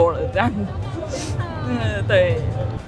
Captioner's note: sob